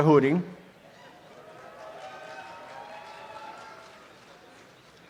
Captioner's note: audience applause